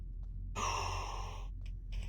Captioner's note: exhale